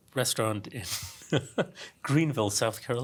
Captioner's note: laugh